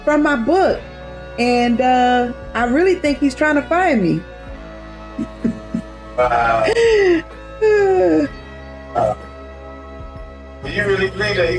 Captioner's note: Terri laughs